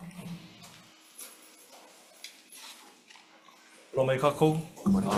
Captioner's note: keys jangle